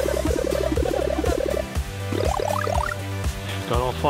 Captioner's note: video game sounds